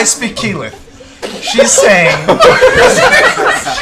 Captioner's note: laughter